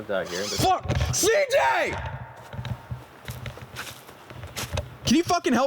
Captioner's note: screaming